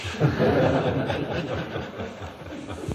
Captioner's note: laughs; laughter